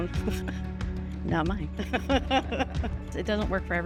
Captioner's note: laughs